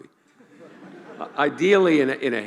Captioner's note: laughing